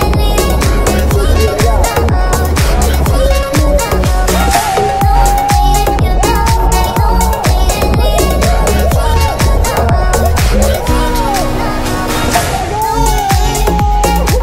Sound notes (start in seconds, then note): 4.3 screaming